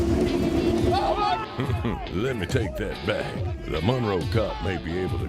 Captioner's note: laughing